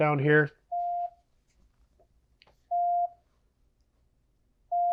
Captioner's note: beeping